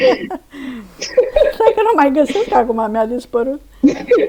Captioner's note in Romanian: râsete